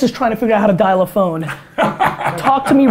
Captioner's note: Tony laughs